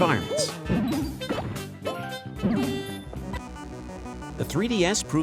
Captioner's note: Super Mario 3D Land sounds